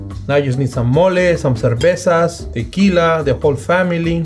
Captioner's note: speaking Spanish